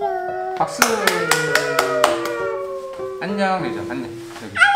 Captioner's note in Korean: 박수